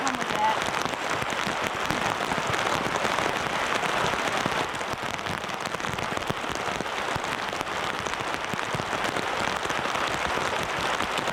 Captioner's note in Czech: Zní silný déšť